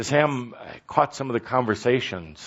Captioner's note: none